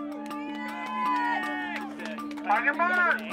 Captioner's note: cheering